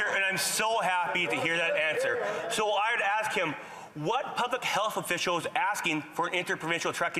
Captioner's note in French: voix de l'interprète